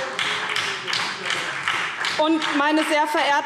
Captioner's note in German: Heiterkeit und Beifall SPD